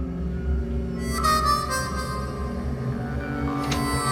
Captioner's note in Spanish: Sonido al cerrar la puerta